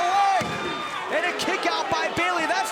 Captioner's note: crowd chatter; crowd cheering